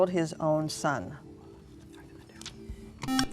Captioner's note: whispering